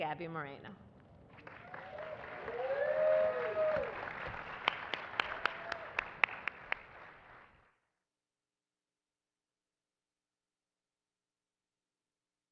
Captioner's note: applause